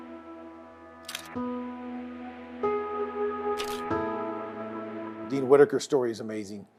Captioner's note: camera shutter clicking